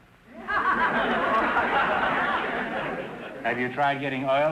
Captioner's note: audience laughter